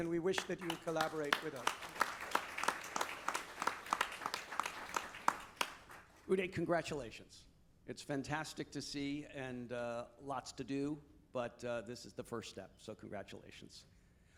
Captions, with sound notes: and we wish that you collaborate with us. (audience applauding) - Uday, congratulations. It's fantastic to see and lots to do, but this is the first step, so congratulations.